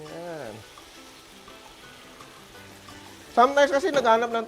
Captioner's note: sizzles